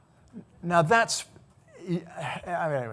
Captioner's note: stammering